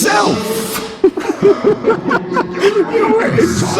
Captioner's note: laughs again